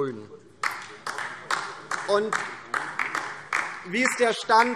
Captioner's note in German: Beifall DIE LINKE